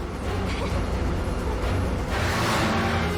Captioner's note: laughs nervously